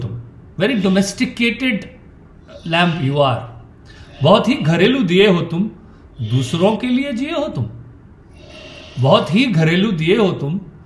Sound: speaks in Hindi – not transcribed; speaks in Hindi – not transcribed; Sadhguru laughs

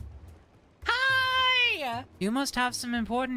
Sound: excitedly

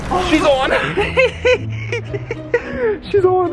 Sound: giggles

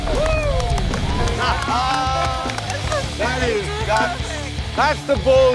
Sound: laughs

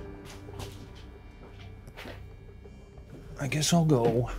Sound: footsteps treading

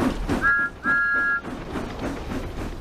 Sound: chuffing; thomas whistles

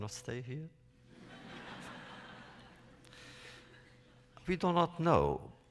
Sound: laughter

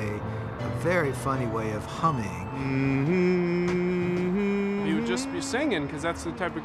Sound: humming

